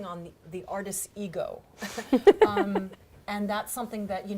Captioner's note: laughing